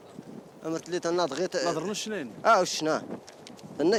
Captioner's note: Arabic spoken audio